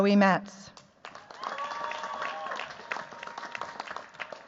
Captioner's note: cheers, applause